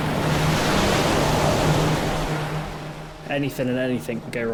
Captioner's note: waves crash